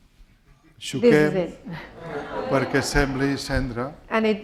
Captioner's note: speaking spanish